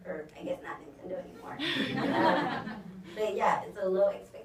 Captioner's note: audience laughs